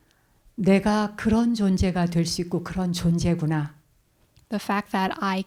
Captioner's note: speaking in Korean